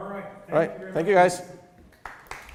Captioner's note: applause